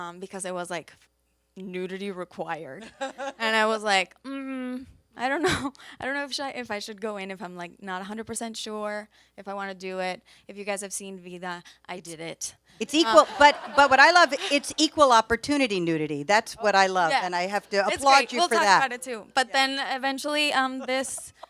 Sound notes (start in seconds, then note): 2.9 panelist laughs; 4.4 groans; 13.0 audience laughs